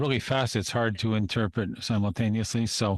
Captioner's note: speaking French